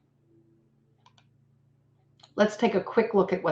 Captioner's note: computer mouse clicks